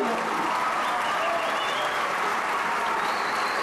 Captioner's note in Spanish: risas-aplausos